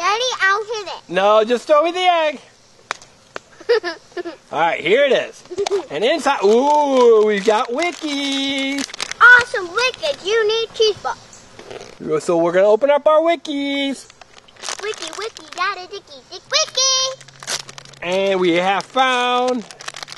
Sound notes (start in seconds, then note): 2.4 voiceover; 10.5 voiceover